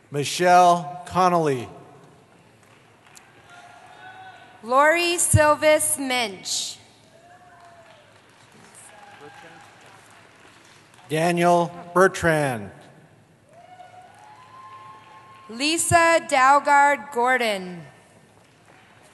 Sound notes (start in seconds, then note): 3.1 cheering; 7.0 applause; 13.4 cheering